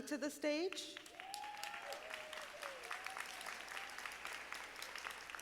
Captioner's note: audience applauding